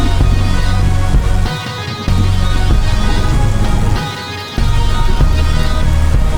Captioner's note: dramatic music; thunder rumbling